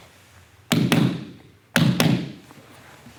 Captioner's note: soft shuffling; loud thumping